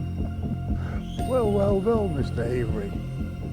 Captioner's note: laughs